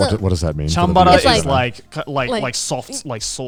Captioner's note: speaking in Japanese